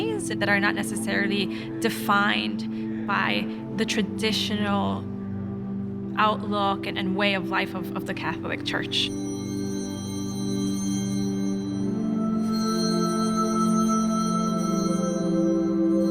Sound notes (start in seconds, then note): 9.0 bells ringing